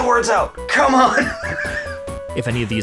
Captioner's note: exasperated laughter